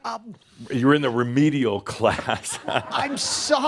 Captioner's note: Adamus laughs